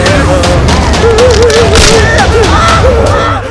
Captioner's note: Cracking sound